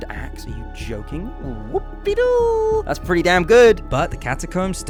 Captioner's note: weird celebration noises